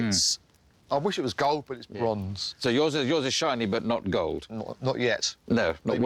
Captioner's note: none